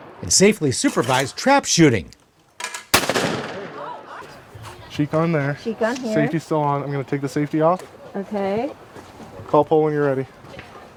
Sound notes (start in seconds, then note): 0.9 shot banging; 2.9 shot banging